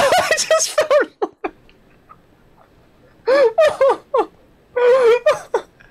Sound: laughing

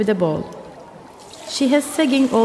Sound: loud water pouring

